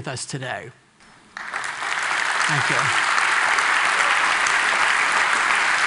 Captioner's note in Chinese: Applause; 掌聲